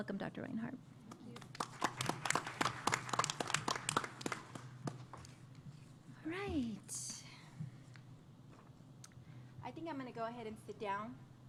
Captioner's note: applause